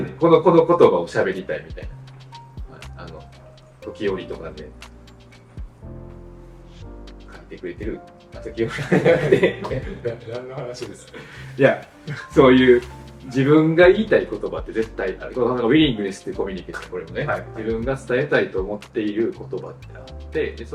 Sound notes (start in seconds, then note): 8.7 laughs